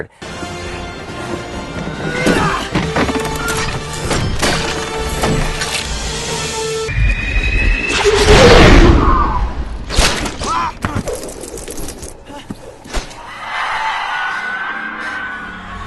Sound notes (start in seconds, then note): 0.2 dramatic music; 7.0 explosion; 13.2 screaming